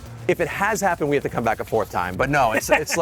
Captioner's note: laughing